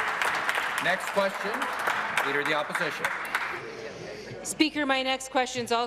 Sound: applause

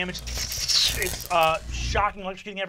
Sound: electric fizzing

